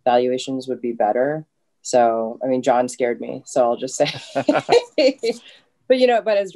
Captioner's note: laughs loudly